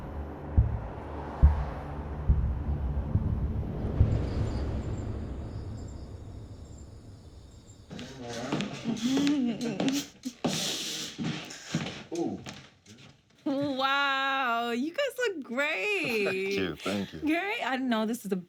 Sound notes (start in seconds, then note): 8.8 man laughs